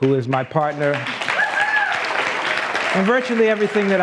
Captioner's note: applause